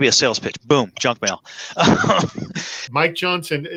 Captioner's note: laughter